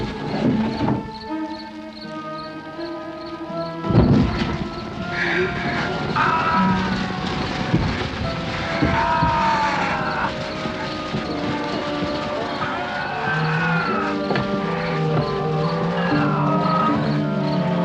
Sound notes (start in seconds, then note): 6.1 ghouls screaming